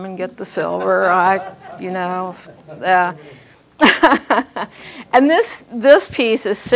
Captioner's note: audience laughing